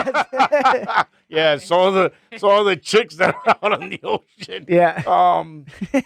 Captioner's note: laughing